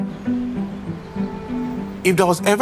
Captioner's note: birds chirping